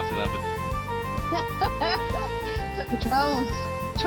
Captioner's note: laughter